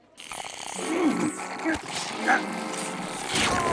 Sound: grunting

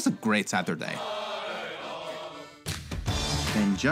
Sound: all chanting

